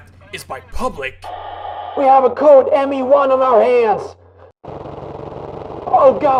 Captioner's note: radio chatter; machinegun-fire